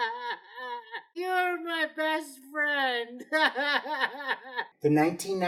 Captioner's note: sobbing; sobbing